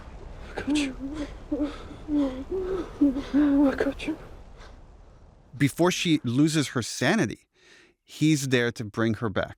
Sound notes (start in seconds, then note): 1.2 ellie whimpers